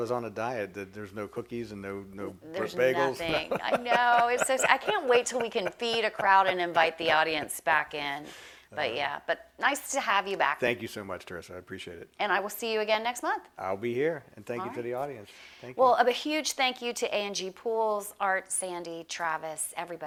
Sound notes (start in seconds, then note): 4.6 laughs